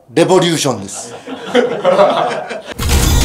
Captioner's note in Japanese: 笑い